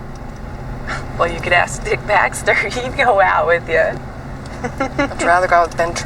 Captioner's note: giggles